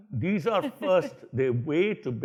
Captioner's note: laughs